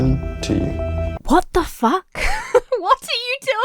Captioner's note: Emma laughs